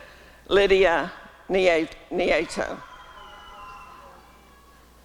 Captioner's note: applause and cheering